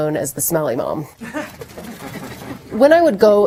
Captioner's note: laughter